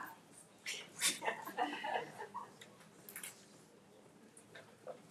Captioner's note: trustees laughing